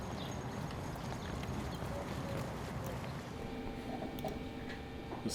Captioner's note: birds chirping